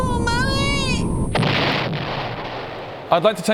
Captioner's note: boom!; whoosh